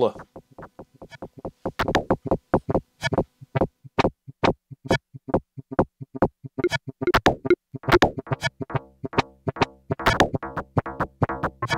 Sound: game sound FX

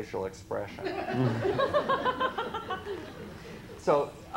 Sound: laughter

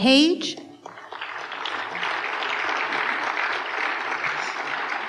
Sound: applause

